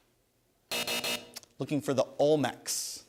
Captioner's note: buzzer